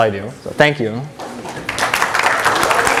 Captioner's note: applause